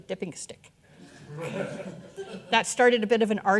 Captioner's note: audience laughing